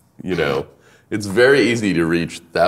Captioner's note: laughing